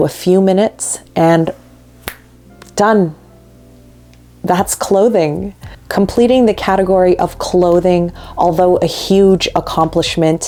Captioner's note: snaps fingers